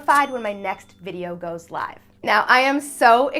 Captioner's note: bell ringing